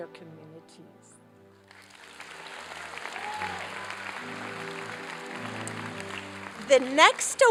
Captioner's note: applause